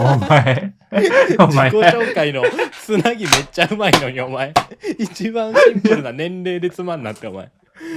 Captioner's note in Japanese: 笑い